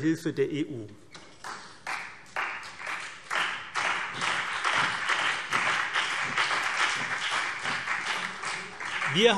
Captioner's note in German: Beifall CDU und BÜNDNIS 90/DIE GRÜNEN